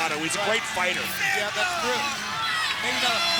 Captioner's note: crowd cheering